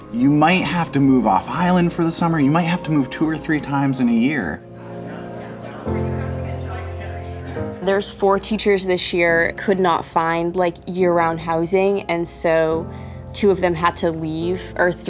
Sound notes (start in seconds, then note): 5.3 people chattering